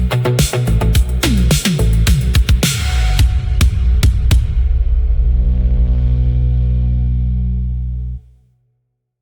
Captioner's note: fade out with the sound of a single, dying heartbeat pulse